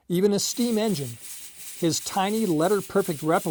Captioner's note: steam engine whirring